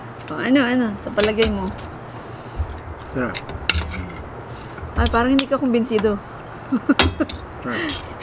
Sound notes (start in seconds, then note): 6.6 laughs